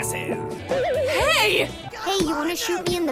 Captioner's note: boing sound effect